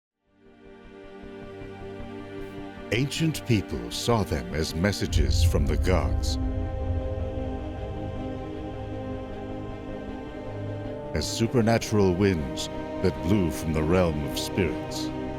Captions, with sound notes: (slow orchestral music) - [Voiceover] Ancient people saw them as messages from the gods. As supernatural winds that blew from the realm of spirits.